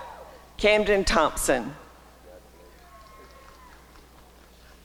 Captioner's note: applause and cheering